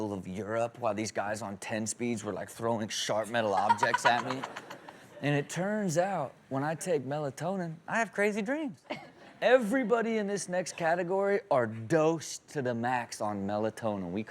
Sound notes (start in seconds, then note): 3.5 Chanel chuckles